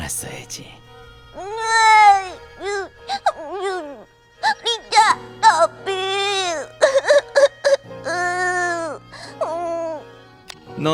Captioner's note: sob